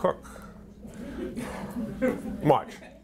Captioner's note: audience laughter